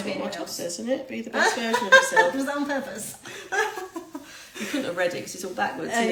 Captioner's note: laughing